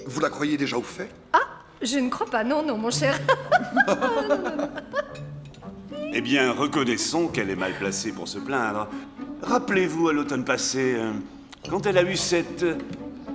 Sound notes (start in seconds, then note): 3.0 all laughing